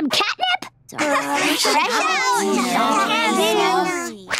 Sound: chattering

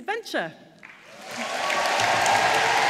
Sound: audience applauds

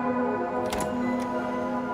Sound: door unlocks

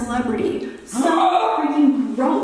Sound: Shane and Ryland gasp

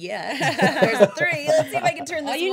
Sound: laughing

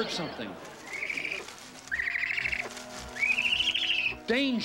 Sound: rustling

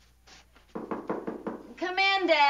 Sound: hold music; knocking

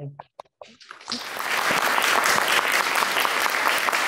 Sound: audience applauds

